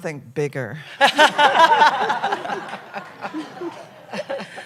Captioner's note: laughter